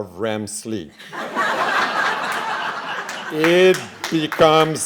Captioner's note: laughing